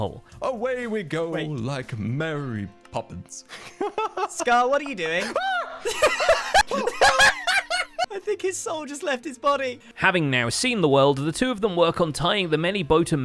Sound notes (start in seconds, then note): 5.6 screams